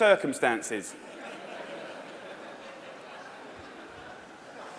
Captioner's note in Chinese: 笑聲